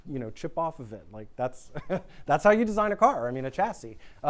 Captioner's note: chuckles